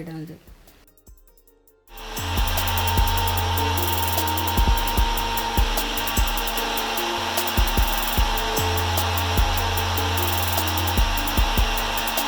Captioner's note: grinder sound